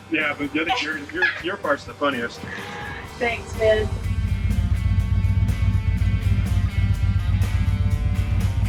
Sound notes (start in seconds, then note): 4.2 motorbike revving